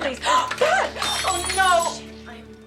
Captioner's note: gasping; glass breaking